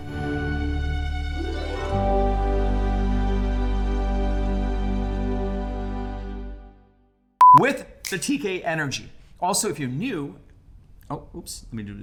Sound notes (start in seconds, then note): 0.0 soft music; 7.4 beep